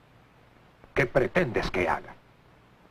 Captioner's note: quietly